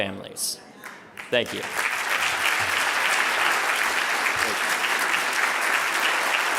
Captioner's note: audience applauding